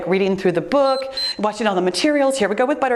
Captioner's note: timer beeps